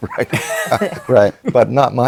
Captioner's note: laughter